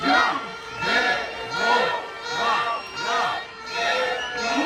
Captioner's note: crowd chanting "De-mo-cra-cy, De-mo-cra-cy"